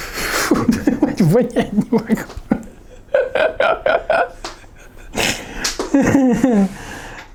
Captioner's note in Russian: смех